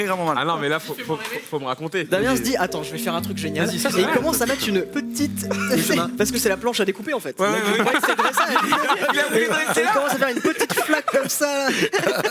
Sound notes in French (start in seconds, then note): 7.4 rires